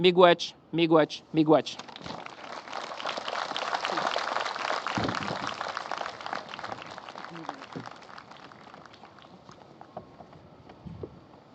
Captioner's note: applause